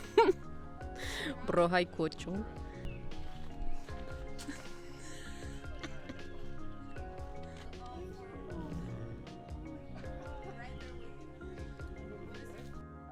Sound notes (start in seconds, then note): 0.0 chuckle; 3.9 laughing; 7.3 tiger's groaning